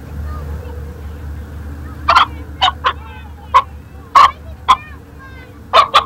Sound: rooster clucks

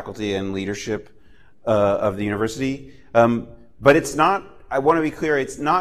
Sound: none

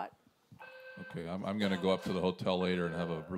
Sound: voiceover

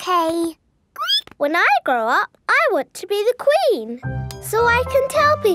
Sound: squeaks

